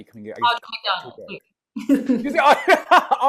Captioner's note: laughing